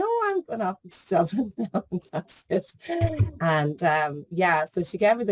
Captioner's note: laughs